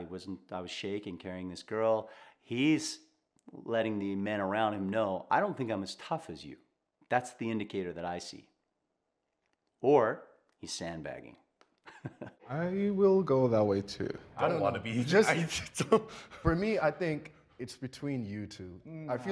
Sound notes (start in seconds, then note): 11.8 chuckles